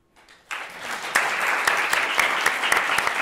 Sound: applause

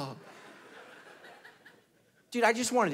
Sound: congregation laughing

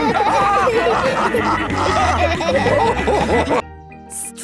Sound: all laughing

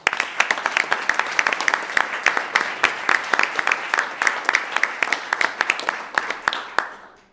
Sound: applause

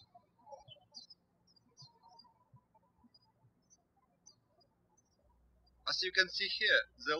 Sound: birds chirping

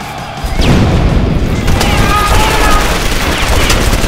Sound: yelling; guns firing

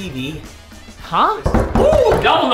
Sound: knocking

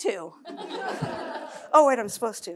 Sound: laughter

